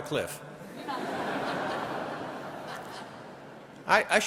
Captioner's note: audience laughing